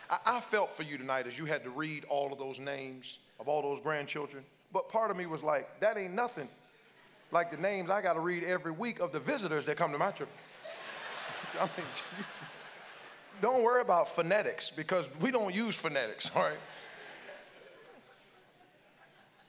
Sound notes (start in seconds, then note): 10.4 congregants laugh